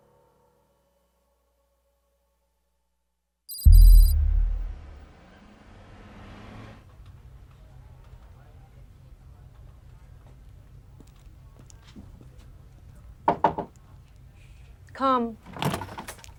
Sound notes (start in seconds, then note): 3.6 ominous tones; 13.2 knocking at door